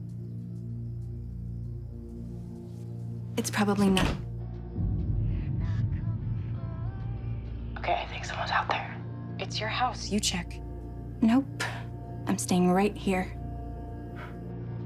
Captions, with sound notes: It's probably not-- [door closing] OK. I think someone's out there. It's your house. You check. Nope. I'm staying right here.